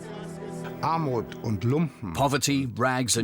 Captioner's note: speaking German